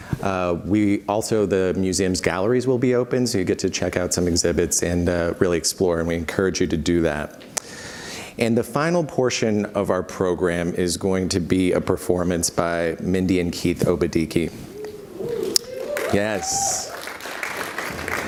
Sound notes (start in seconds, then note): 14.9 audience cheers and applauds